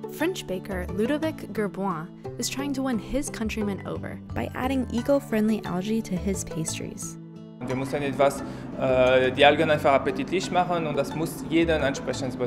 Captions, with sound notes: French baker Ludovic Gerboin is trying to win his countrymen over by adding eco-friendly algae to his pastries. (man speaking German)